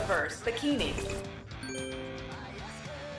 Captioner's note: ding, chime